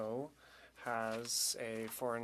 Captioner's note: speaking French